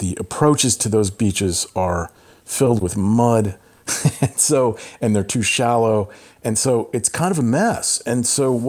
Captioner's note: laughter